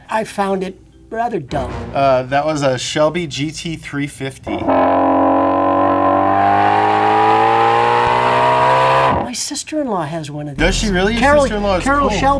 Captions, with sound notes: I found it rather dull. (upbeat music) - That was a Shelby GT350. (engine revs) - My sister in law has one of these. - Does she really? Your sister in law is cool.